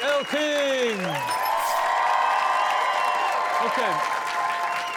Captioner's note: cheering